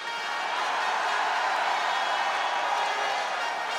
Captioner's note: crowd cheers